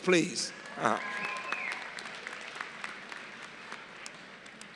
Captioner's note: applause